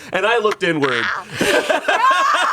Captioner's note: everyone laughs